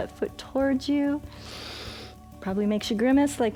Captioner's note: inhales